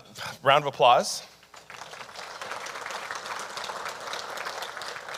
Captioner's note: audience applauding